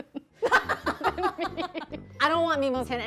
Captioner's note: laughing